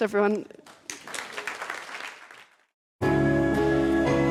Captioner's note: audience applauds; bright music